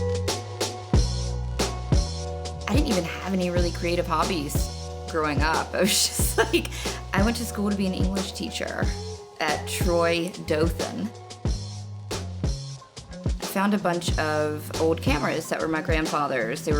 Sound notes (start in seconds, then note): 0.1 upbeat jazz music; 6.3 laughing